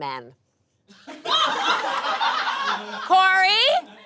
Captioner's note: audience laughs